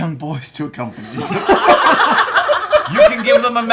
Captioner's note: laughter